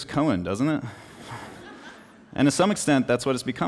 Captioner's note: laughter